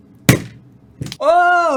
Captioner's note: loud snap